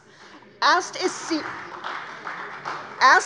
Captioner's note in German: Beifall bei der CDU